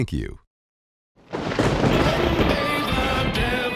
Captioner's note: thunder rumbles; uptempo rock music